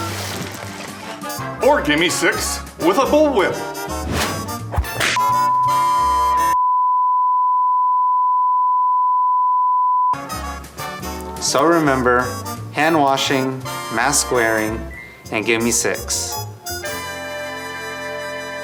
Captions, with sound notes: Or gimme six with a bullwhip! (beep) - So remember hand-washing, mask-wearing, and gimme six.